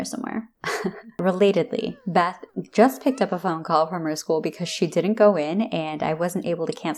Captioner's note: chuckle